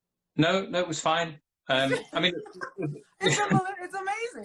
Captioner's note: laughing